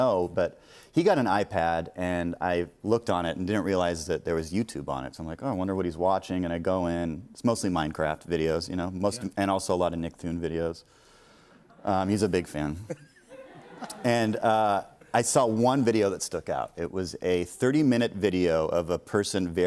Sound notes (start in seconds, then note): 12.8 laughter